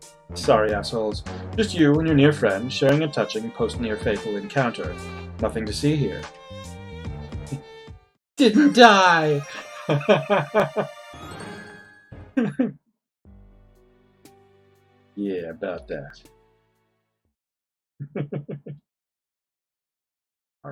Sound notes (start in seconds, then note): 7.3 chuckles; 8.4 friendship fanfare; 13.8 laughs; 18.0 chuckles